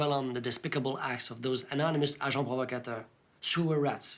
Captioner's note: speaks French